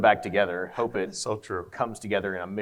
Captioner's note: laughs